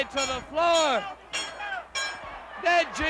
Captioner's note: everyone yelling